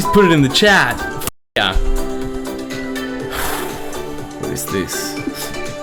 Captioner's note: sigh